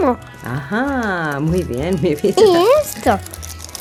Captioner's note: giggle